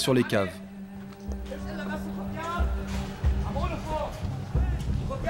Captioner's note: arab spoken audio